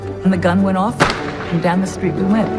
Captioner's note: gun fires